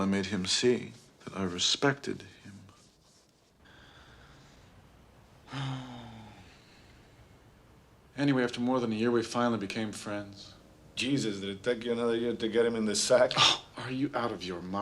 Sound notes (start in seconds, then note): 5.4 sighs